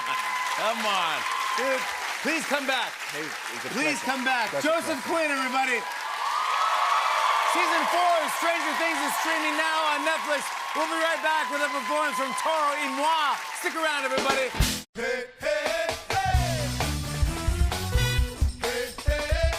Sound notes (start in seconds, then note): 0.0 cheers and applause; 5.9 cheers and applause